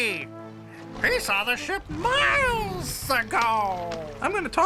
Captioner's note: rugido de león